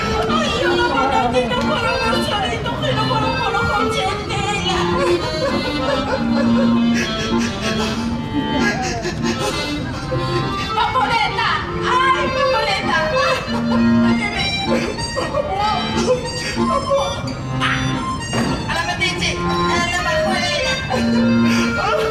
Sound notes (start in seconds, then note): 0.1 foreign; 4.4 crying; 10.6 foreign; 14.5 crying; 18.3 foreign; 21.9 crying